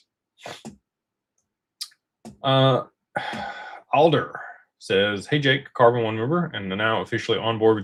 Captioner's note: snorts